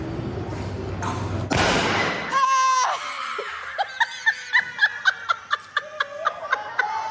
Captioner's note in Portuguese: som de estouro